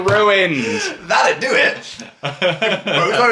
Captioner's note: laughing; laughs